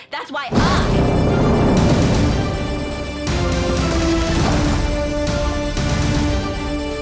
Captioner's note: dramatic music; loud growling